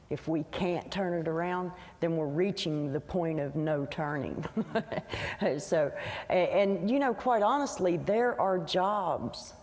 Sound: laughs

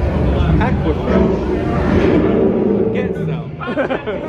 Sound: group chattering

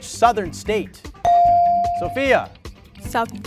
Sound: ding

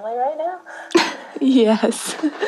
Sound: laughs

